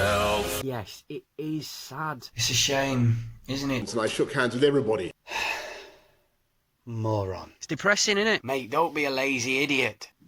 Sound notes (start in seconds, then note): 5.2 sigh